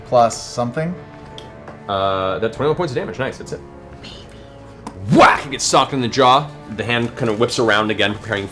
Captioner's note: whack